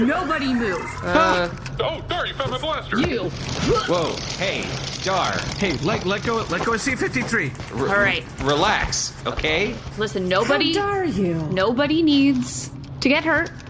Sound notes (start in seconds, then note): 0.5 charges blaster; 5.9 nervous